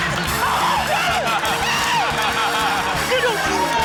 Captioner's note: screams